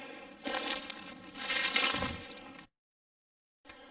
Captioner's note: leaves rustling